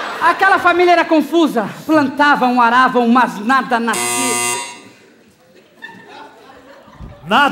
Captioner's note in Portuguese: campainha